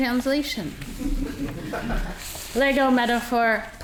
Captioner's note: audience laughing